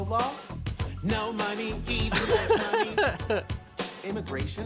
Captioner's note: laughing